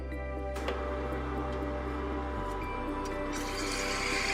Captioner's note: machine whirring